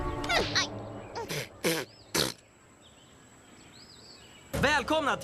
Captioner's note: spits